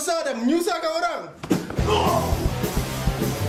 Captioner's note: pained groans